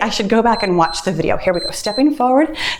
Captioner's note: timer beeps